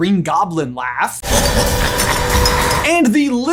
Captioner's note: Green Goblin laughing